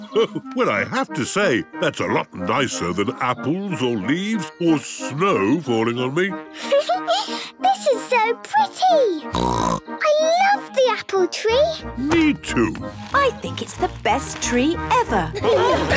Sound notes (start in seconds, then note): 6.8 Peppa laughing; 9.3 snorting